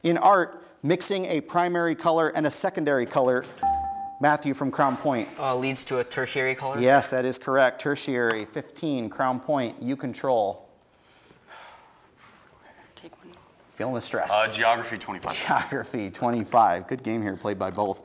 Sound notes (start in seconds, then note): 3.6 buzzer beeps; 10.1 team whispers